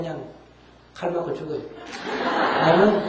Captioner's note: audience Laughter